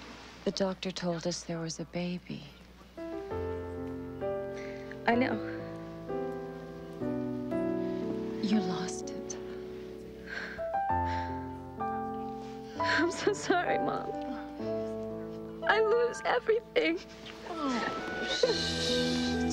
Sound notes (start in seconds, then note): 10.0 voice Breaking; 15.8 crying